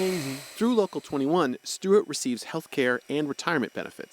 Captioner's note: voice-over